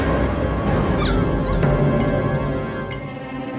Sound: dog barking

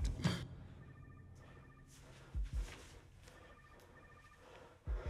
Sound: phone ringing

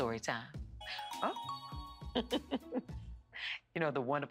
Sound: chuckles

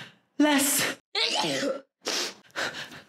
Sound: sneezes and sniffs

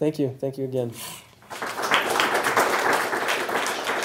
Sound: applause

